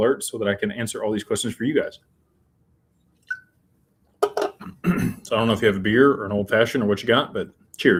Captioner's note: clears throat